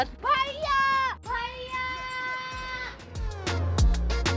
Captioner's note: shouting